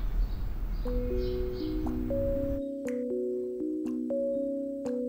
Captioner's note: water dripping